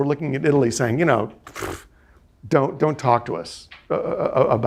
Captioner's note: scoffing